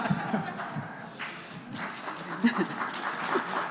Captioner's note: applause; laughing